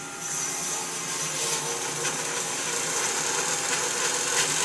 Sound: saw buzzes

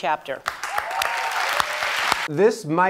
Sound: audience applauds

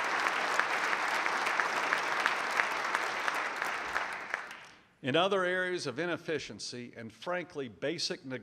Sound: applause

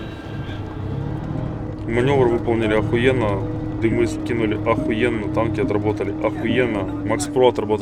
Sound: chatter

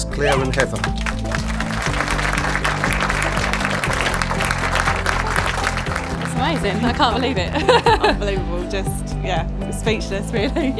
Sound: claps and applause

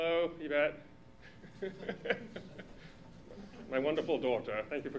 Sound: laughter

